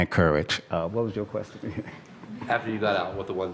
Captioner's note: laugh